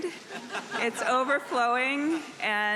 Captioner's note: audience laughing